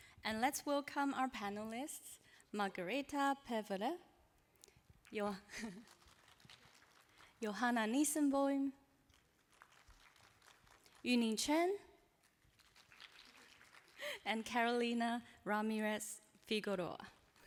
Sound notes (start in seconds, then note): 5.4 applause; 9.1 applause